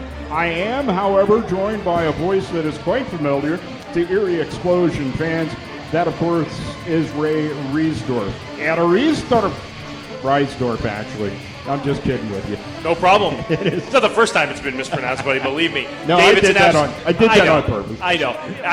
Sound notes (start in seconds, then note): 13.4 annoucers laugh